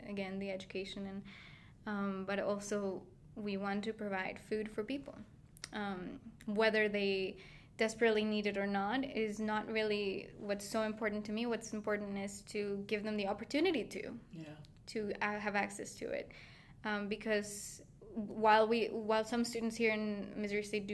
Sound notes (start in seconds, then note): none